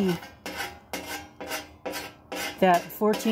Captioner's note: scraping noises